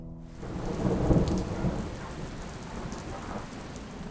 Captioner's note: rainfall pouring